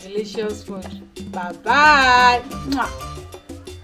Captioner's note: kisses